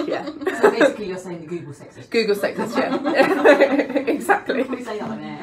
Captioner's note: laughter